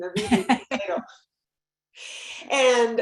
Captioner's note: laughter